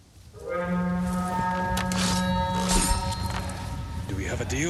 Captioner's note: alarm